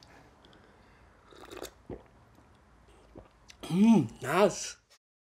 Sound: slurps coffee

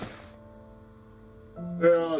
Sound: none

